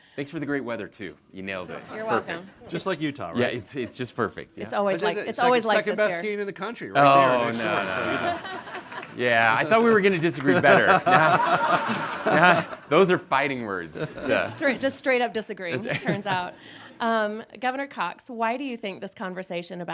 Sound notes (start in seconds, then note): 1.6 audience laughing; 7.1 audience laughing; 11.0 all laughing